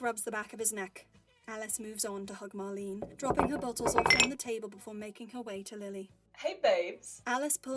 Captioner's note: bottles clinking